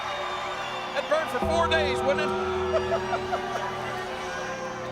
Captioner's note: laughs